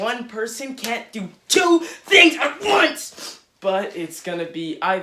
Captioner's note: yelling